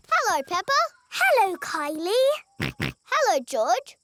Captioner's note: snorts